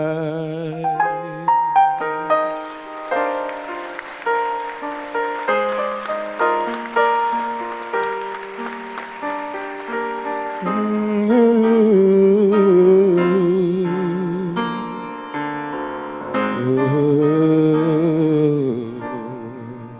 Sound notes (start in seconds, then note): 2.9 audience applauds